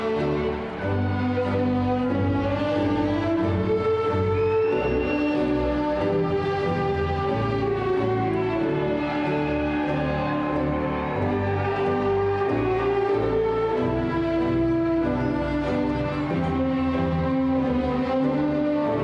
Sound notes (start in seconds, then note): 5.5 cheerful classical music; 5.5 crowd cheering